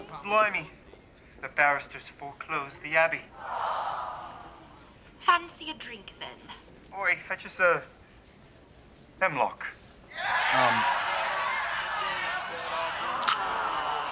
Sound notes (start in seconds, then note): 3.4 audience track goes Awww; 10.3 laugh track in the show